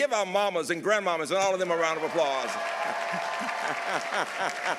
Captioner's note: laughs